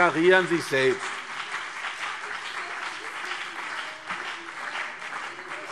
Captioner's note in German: Beifall CDU und BÜNDNIS 90/DIE GRÜNEN